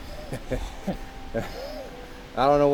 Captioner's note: guys laugh